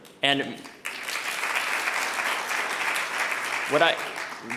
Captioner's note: audience applauding